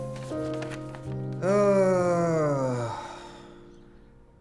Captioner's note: sighs